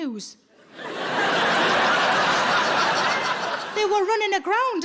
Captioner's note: audience laughing